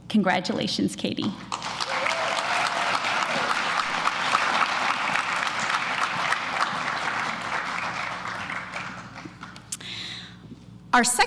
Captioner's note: applause